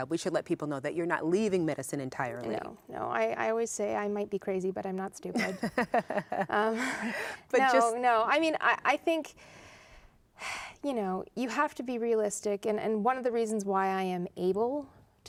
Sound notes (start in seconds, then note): 5.3 laughter